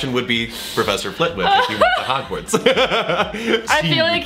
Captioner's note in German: lacht